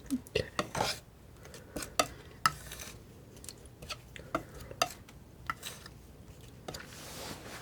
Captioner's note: scratching